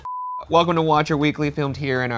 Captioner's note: beeps